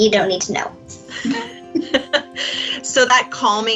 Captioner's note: laughter